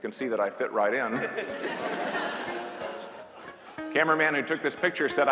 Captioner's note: class laughing